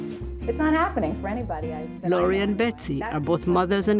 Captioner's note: on the telephone; voice-over